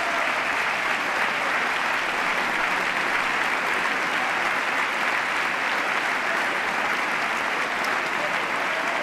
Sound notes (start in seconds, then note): 1.5 applause